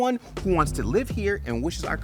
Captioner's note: graphic hums